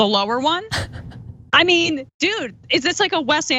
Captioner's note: laugh